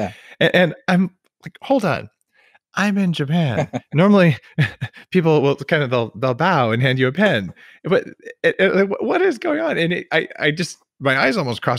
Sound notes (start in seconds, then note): 3.3 laughs